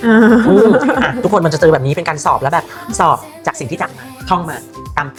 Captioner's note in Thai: เสียงหัวเราะ